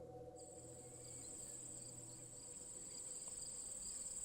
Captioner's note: insects chirping